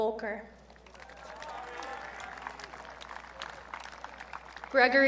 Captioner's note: audience cheering